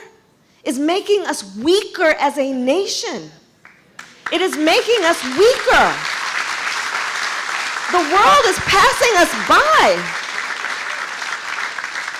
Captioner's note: applause